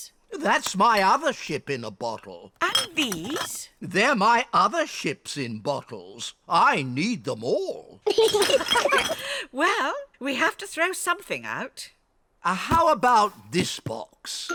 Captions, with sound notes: -That's my other ship in a bottle. -And these? They're my other ships in bottles. I need them all. -(ALL LAUGH) -Well, we have to throw something out. How about this box?